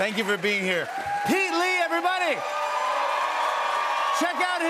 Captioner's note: cheers and applause